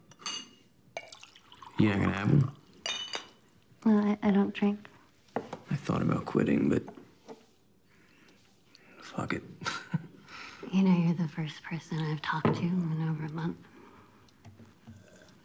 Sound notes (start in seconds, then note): 0.9 liquor pours; 9.6 chuckles